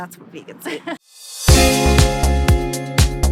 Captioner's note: chuckling; upbeat music